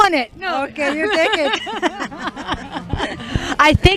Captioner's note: laughter